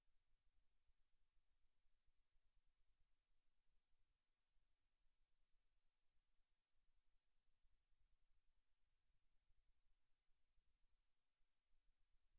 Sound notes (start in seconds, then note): none